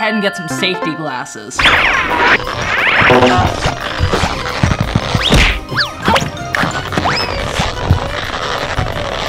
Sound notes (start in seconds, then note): 3.7 cartoon swooshing